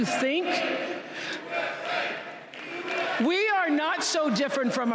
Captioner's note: applause